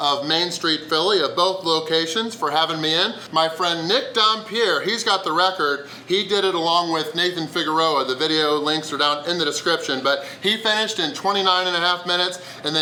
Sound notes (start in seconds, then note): none